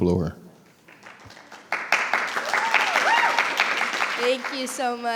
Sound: everyone applauding

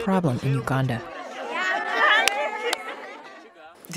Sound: talking happily

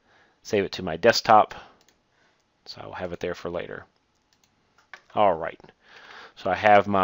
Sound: click

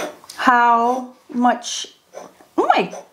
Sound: pen scrapes

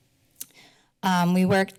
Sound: silence; clicks tongue

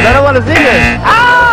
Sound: buzzer

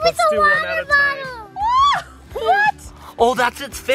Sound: screaming

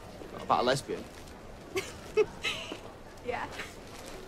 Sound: laughs

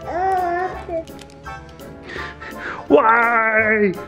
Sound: child coos

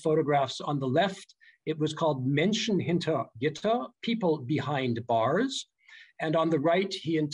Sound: german

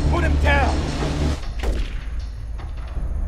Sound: gun firing; dramatic orchestral music

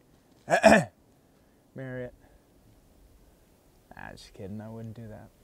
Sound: clearing throat

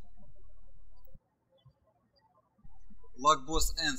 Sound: birds chirping

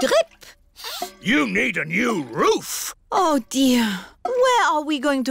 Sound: sniffs

